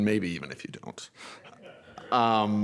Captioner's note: laughter